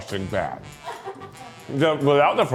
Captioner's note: crew laughing